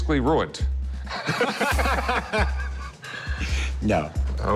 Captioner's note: laughter